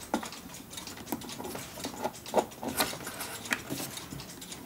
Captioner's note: ticking in the background